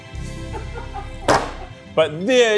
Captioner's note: crew members laughing